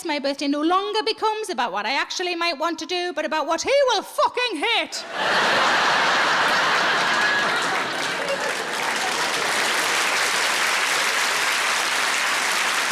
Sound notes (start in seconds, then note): 5.0 audience laughs; 8.4 audience applauds